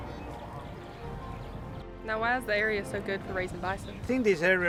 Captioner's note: birds chirping